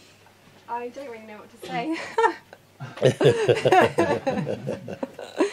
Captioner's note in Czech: smích